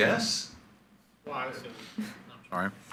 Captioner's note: speaks faintly